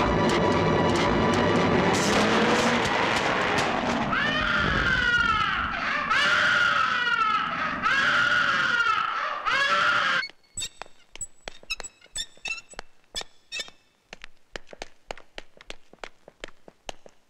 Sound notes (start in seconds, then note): 4.2 baby Crying